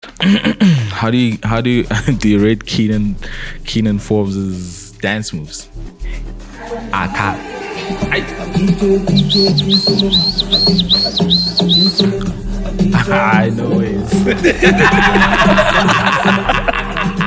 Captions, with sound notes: How do you rate Kiernan Forbes's dance moves. [whistle ] no ways